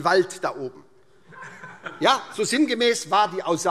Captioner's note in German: Heiterkeit SPD und DIE LINKE